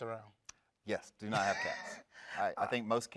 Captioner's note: laughs